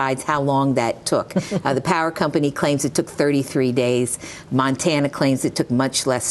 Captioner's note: laughter